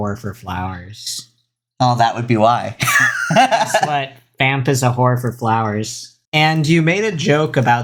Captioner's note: laughs